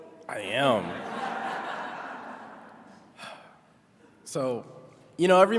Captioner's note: attendees laughing